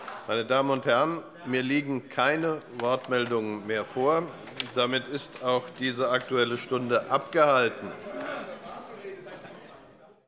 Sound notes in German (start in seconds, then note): 7.7 Anhaltende Unruhe